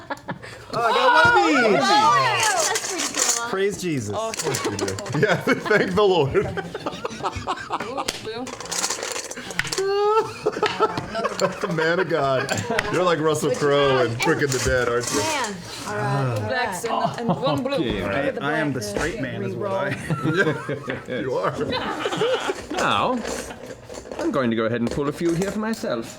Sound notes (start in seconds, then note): 6.4 laughter